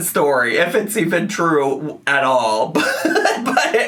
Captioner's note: laughs